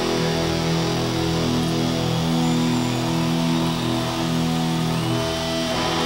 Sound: audience cheering and clapping

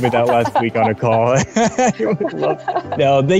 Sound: both laugh

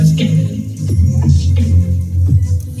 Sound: deep voice

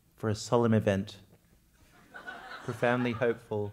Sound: laugh

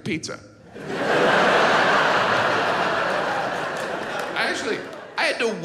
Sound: audience laughs

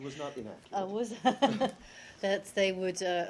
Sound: laughter

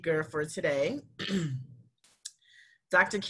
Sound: clears throat

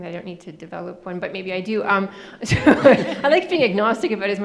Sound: laughing

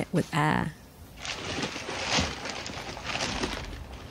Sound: rustling

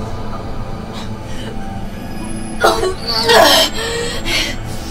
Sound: vomiting

